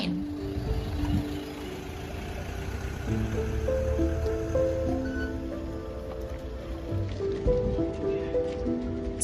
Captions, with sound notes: covering the refugees coming across the border from Ukraine. (truck engine rumbling) (forlorn music)